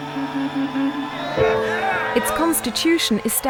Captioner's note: crowd cheering